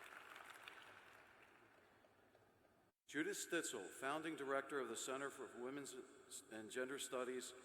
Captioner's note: applause